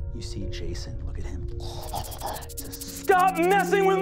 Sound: skittering

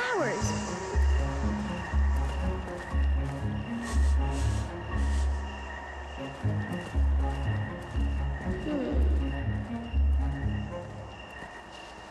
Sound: sniffing

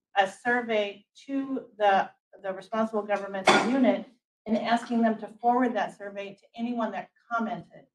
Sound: chair clanks

